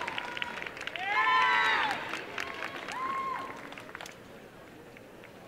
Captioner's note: applause and cheering